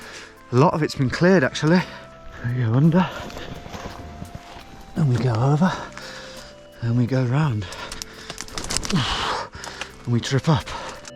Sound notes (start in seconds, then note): 7.3 exhaling; 8.7 branches crackling